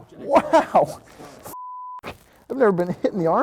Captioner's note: beep